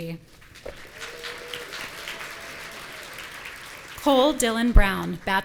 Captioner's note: audience applauding